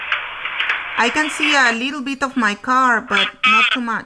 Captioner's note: voiceover